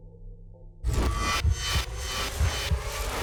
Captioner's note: heart beating